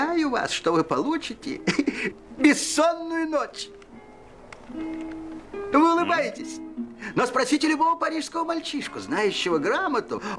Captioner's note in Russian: смех